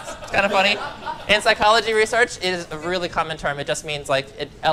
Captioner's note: laugter